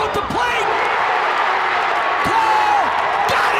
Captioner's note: fans screaming